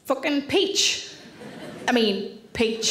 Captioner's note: audience laughing